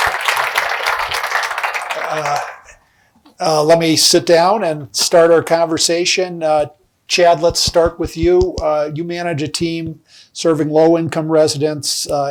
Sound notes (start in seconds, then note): 2.1 applause